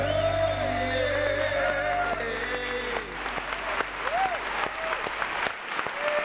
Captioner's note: audience cheering and applauding